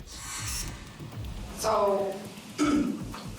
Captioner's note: clears throat